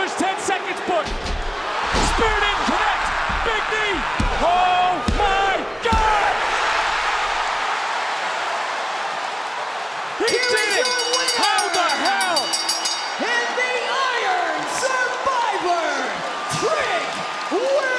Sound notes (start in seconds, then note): 6.9 crowd cheers; 10.2 bell rings